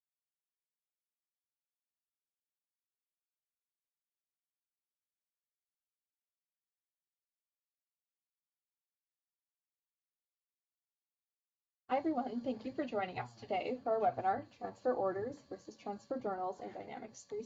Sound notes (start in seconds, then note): 1.1 silence